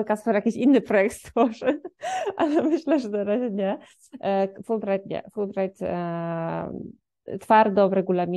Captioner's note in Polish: śmiech